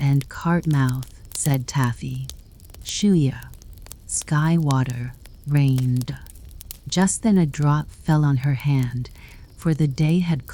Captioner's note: rain